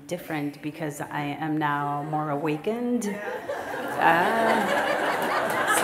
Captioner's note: laughter